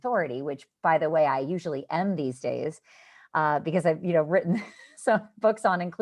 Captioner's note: laughter